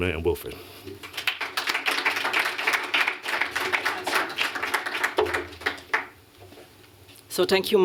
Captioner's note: applause